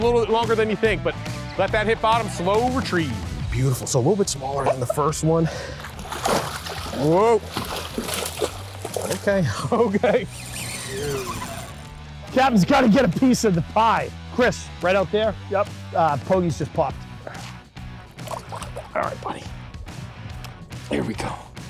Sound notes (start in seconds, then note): 5.6 water splashes; 10.3 rock music; 17.7 rock music